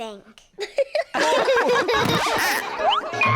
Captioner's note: all laugh